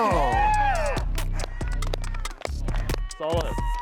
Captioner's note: all cheer